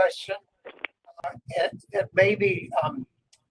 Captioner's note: audio distorts